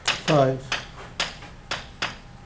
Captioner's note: voiceover